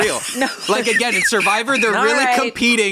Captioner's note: laughs